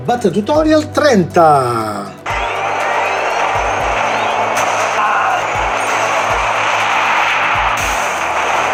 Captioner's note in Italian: Applauso